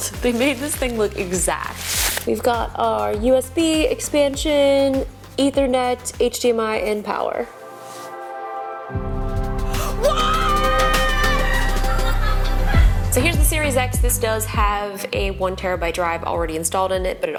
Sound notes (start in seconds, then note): 7.4 ethereal music; 9.8 screams